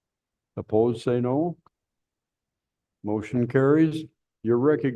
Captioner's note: silence